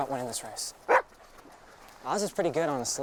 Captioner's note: Buck barks